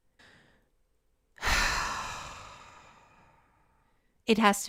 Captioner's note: painful sigh